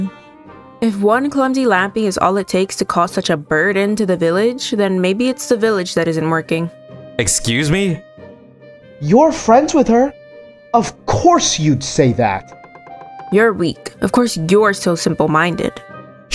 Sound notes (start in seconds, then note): none